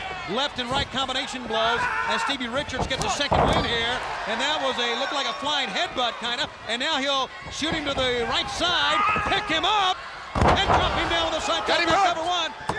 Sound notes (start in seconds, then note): 0.0 blows thudding; 2.5 body thudding; 3.6 crowd cheering; 9.3 footsteps plodding; 10.3 body thudding; 11.9 hands thudding